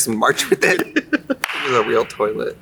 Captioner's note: Katya laughs